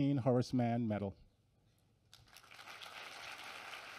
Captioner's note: applause